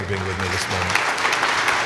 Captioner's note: applause